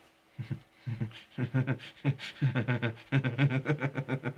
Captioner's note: spooky laughing